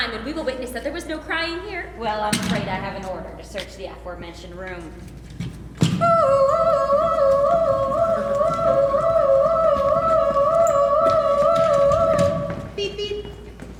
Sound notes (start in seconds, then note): 6.1 imitating siren